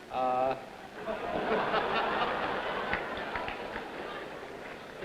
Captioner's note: audience laughing